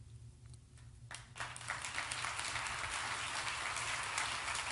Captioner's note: applause